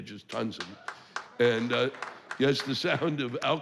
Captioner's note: clapping